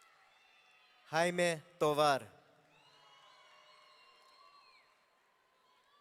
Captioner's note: audience cheering